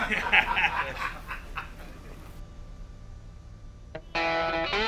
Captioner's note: officers laugh